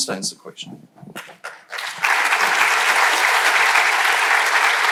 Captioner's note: crowd applauding